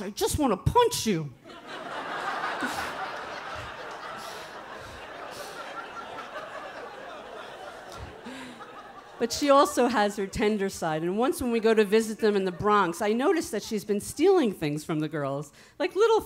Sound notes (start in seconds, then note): 1.6 audience laughing; 2.9 chuckles